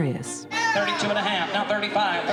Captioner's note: auction chant